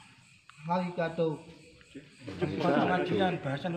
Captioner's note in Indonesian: bahasa jepang